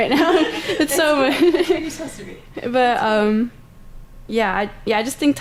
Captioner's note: laughter